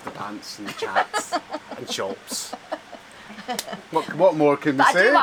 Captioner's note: Janice laughs